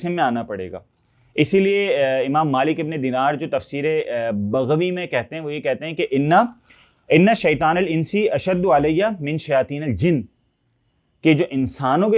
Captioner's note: Arabic